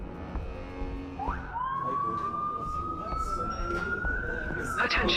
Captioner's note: sirens wailing